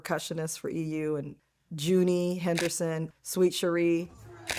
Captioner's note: shutter snaps